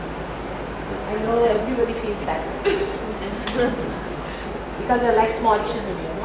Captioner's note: laughter